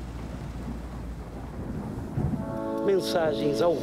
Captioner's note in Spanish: trueno